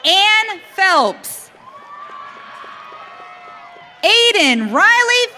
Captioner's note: audience cheering